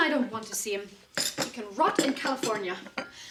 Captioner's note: teacups clattering